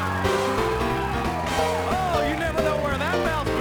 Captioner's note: crowd cheering